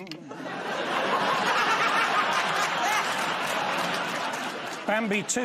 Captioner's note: laughter